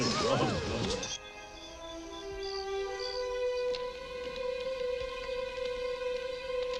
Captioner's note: low solemn music; crickets chirping